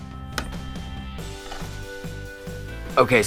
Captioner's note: sweeping noises